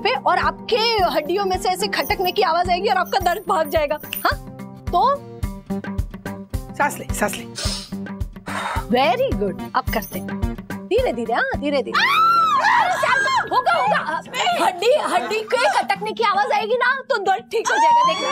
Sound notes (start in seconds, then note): 11.9 screaming